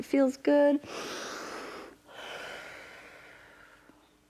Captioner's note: inhales and exhales